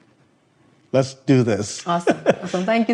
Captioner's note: laughs